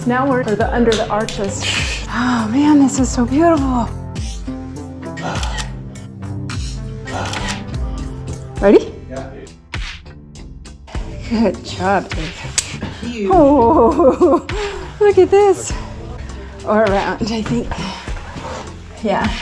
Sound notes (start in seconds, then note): 5.1 shutter sound; 13.5 enthusiastic laughter